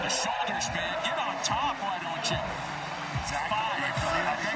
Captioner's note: cheering